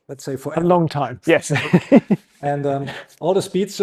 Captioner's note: chuckles